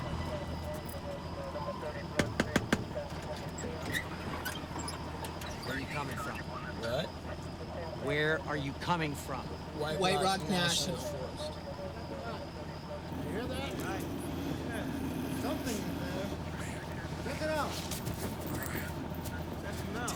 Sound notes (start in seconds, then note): 0.0 police radios chattering; 0.0 suspenseful music; 2.2 tapping on window